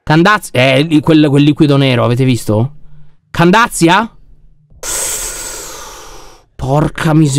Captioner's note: astonished sound